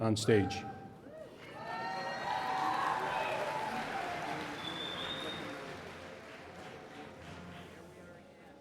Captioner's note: applause and Cheering